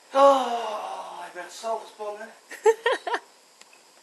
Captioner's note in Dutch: sigh